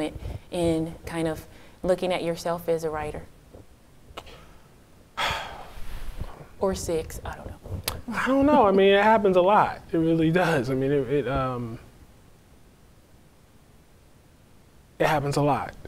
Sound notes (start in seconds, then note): 5.2 sighs